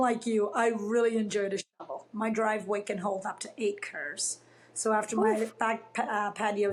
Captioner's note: laughs